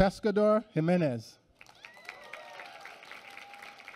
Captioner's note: applause